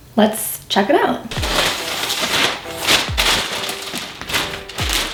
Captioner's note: paper rustling